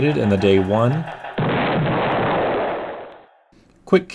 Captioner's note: explosion